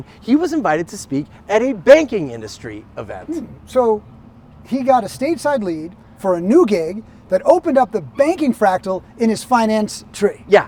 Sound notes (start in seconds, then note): none